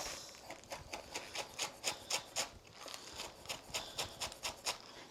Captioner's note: knife whooshing